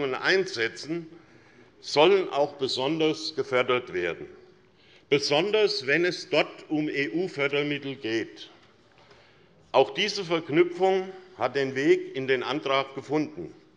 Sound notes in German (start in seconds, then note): none